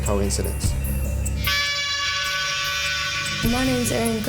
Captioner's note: horn blast